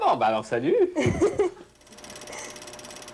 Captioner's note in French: rire